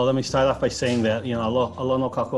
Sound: in Hawaiian language

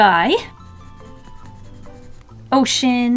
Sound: pencil scratching

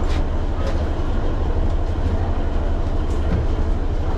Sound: engine runs

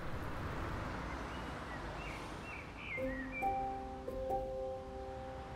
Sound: birds chirping, traffic

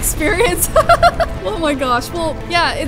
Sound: laughs

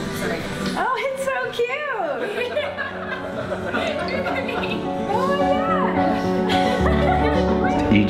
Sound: laughter

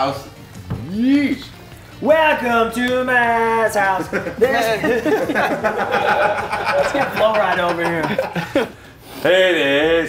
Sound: laugh

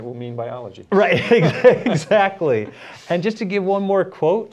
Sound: laughter

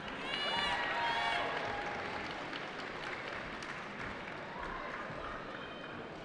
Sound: cheering

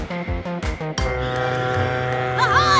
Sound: honk

